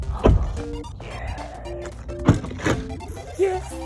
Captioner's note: car door slamming; upbeat music